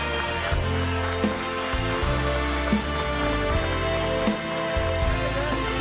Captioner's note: audience cheering and applauding